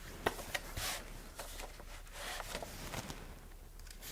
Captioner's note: pages flipping